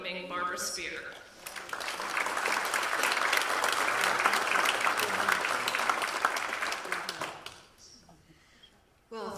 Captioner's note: audience Applause